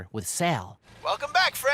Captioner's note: car idling